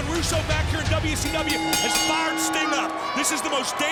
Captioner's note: bell rings